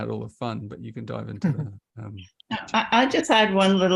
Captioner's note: chuckles